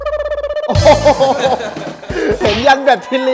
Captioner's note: laughs